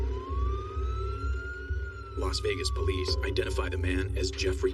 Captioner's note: siren wailing